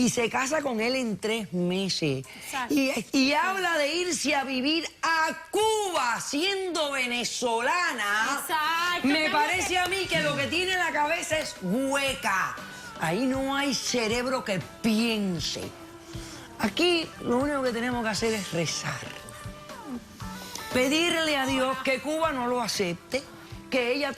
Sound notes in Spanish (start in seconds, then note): 9.7 Palmadas